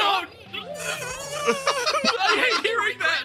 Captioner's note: zzzzzzzzzz